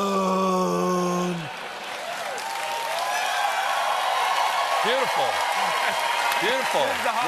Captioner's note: cheers and applause